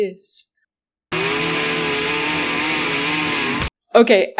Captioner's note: chainsaw? icesaw noises